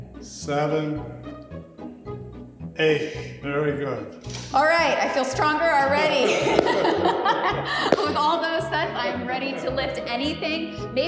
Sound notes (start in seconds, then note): 6.1 laughs